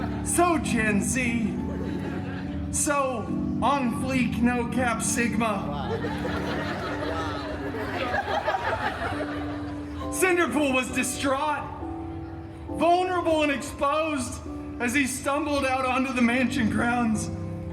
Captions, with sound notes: So Gen Z, so... On Fleek No Cap Sigma. [guests laughing] Cinderpool was distraught, vulnerable and exposed as he stumbled out onto the mansion grounds,